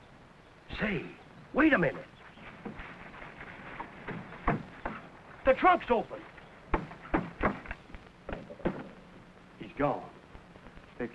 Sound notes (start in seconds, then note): none